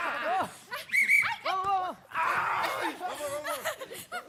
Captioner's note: performers cheering; whistle blowing; performers chuckling